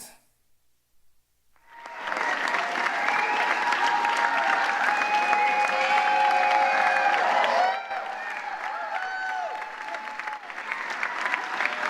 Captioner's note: applause